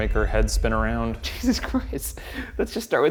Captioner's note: laughs